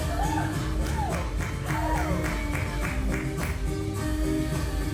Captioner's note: audience applauds and cheers